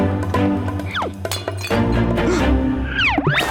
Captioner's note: pottery breaking